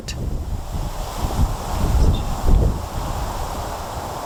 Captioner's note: air whooshing